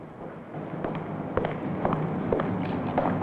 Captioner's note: footsteps